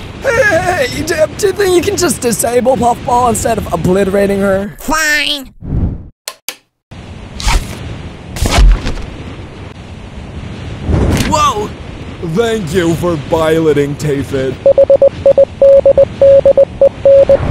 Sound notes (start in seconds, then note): 12.3 thick accent